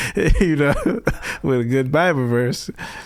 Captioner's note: laughing